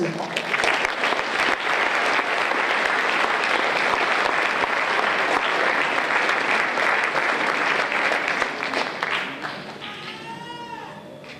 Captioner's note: applause